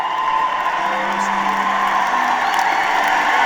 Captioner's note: applause